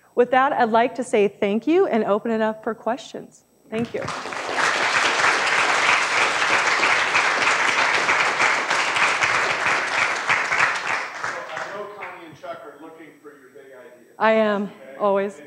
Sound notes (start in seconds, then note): 3.8 applause